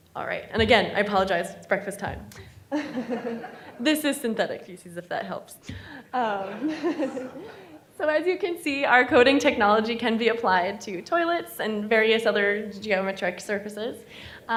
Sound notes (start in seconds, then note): 2.7 laughing; 6.2 audience laughing